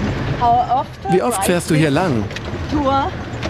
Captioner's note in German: englisch